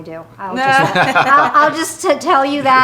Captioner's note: all laughing